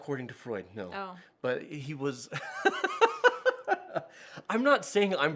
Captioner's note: laughs